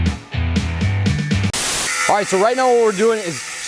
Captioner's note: static